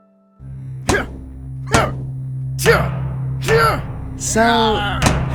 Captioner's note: grunting, yelling